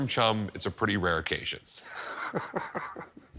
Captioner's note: chuckles